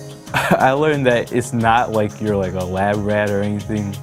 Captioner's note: chuckles